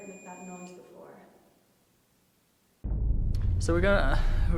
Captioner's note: sustained ringing tone stops